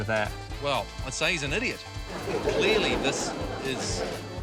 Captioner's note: laughter